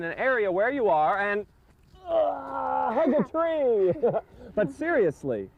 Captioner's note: groans